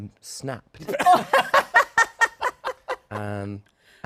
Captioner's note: laughter